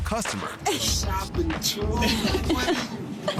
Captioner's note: people laughing